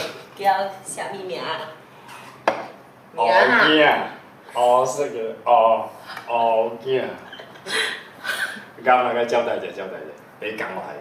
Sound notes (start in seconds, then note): 7.2 MONICA laughs